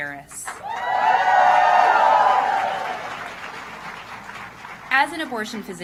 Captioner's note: applause